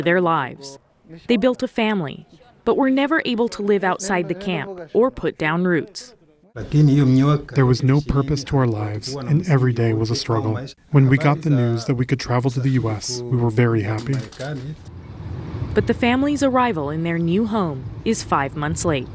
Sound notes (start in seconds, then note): 7.1 through translator